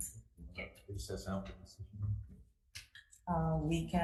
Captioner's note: speaks faintly